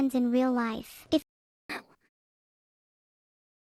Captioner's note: sobs